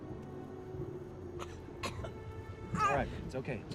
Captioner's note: cough